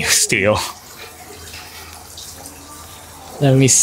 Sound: water fountain burbling

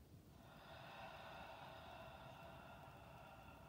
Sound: exhales

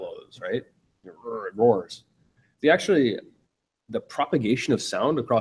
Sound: roars

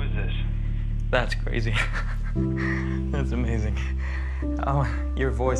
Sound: laughs

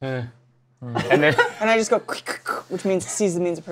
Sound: laughs; squelching sounds

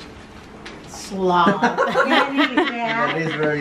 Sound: laughing

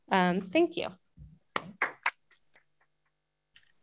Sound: applause

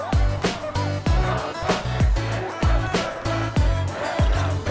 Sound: team chanting

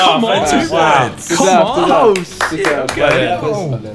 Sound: students murmurs

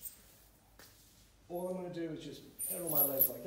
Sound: floor squeaks

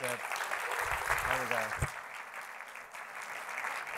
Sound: applause

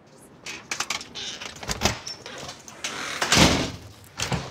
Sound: door creaking & slamming

